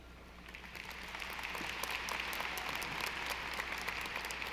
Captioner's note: audience applauding